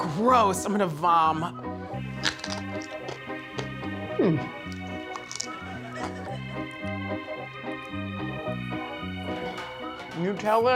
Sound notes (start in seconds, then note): 2.2 crunching